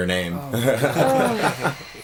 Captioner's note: guy chuckles